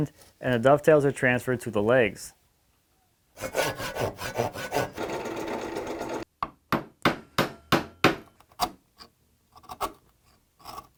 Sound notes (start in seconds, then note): 3.4 rough sawing; 4.7 slow drilling; 6.6 gentle hammering; 8.0 chisel scrapes